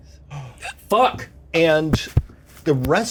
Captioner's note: Evelyn gasping